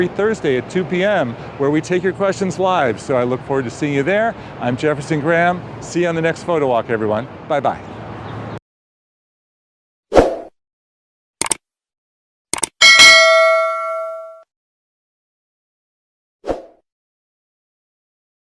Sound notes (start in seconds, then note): 11.4 mouse clicks; 12.8 bell chimes